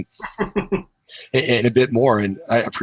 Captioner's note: laughs